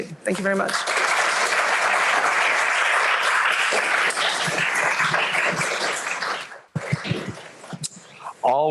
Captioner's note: applause